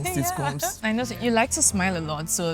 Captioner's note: laughs